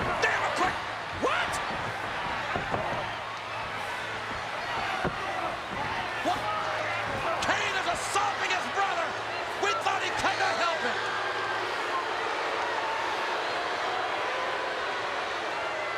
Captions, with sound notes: Damn it, Kane. What? (crowd clamors) Kane is assaulting his brother. We thought he'd come to help him. (crowd boos)